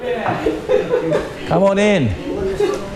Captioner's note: men and women laughing